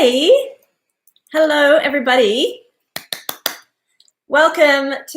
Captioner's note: claps